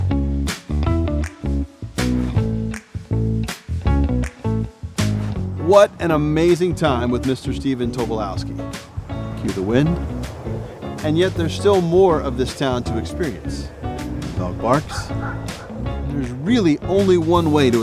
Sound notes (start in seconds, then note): 13.7 dog barking